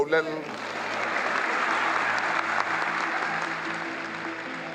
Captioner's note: applause